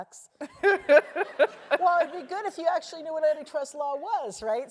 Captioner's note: laugh